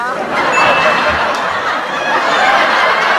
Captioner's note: laughing